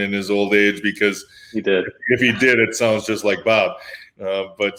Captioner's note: laughs